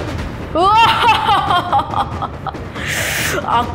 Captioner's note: laugh